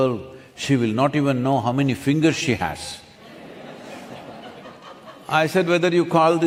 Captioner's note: laughter